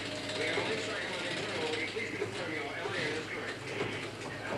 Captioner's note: radio chatter